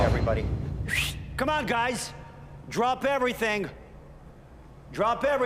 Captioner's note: whistles